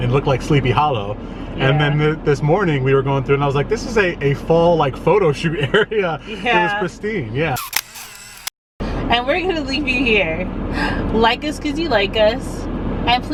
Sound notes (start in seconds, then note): 7.6 camera click